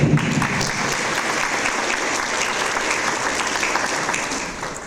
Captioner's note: audience applause